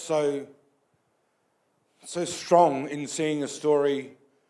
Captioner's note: none